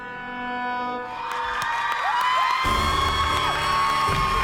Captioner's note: cheering; applause